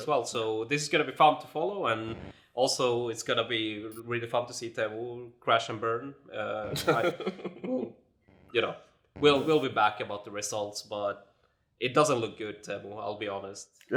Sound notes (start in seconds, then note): 6.7 chuckles